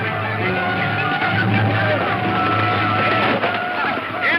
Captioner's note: gunshot